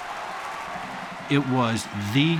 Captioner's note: cheering